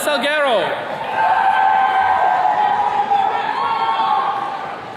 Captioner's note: attendees cheering